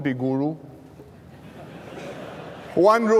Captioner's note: laughter